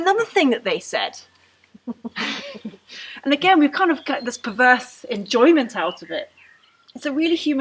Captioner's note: laughter